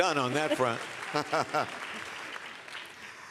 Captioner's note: laughs